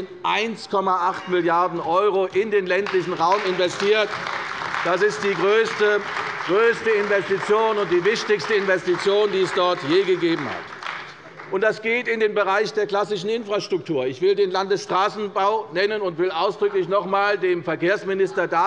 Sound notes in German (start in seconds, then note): 9.7 Beifall bei der CDU und dem BÜNDNIS 90/DIE GRÜNEN